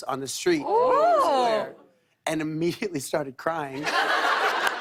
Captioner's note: laughter